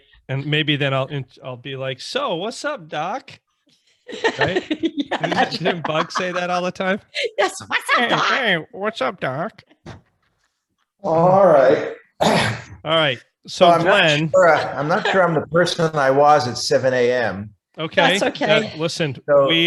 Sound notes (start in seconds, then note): 12.3 sighs